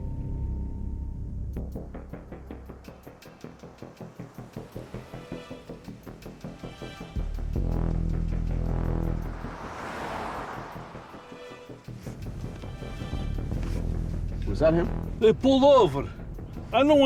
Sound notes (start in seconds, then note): 1.7 suspenseful music; 1.7 vehicle droning